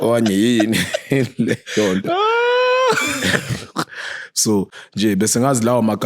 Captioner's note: laughing